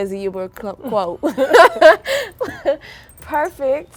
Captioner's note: girls laughing